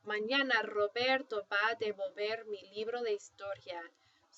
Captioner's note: speaking spanish